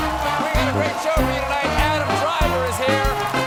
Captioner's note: cheers and applause